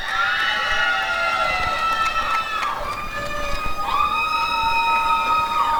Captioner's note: applause and cheering